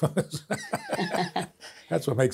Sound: both laughing

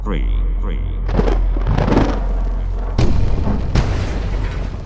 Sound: thunder rumbling

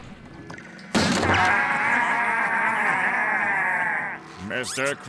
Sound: laughing

